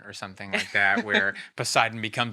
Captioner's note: laughing